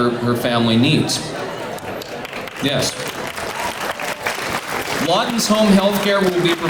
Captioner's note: clapping